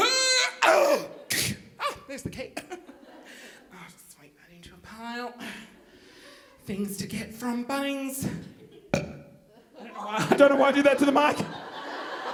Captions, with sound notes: (grunting) Ah, there's the key. Ah, I just like adding to a pile. Things to get from Bunnings. (burps) I don't why I did that to the mic.